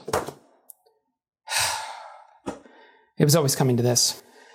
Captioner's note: sighs with limitless resignation